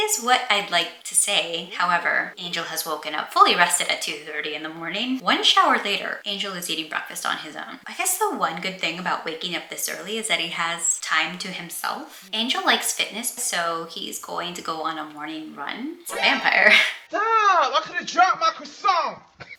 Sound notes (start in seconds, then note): 16.1 Metal Gear Solid alert